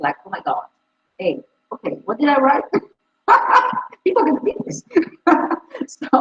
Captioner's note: laughs